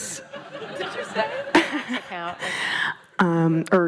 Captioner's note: laughing